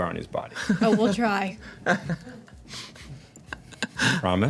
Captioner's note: laughter